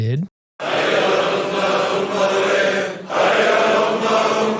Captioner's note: crowd vocalizing